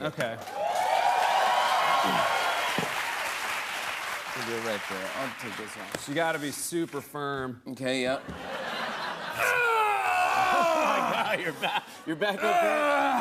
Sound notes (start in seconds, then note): 0.4 cheering and applause; 8.2 laughter; 9.4 groaning